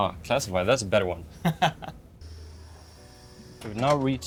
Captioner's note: laughs